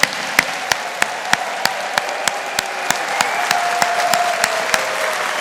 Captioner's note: audience applauding